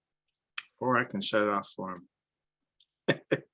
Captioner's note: small laughter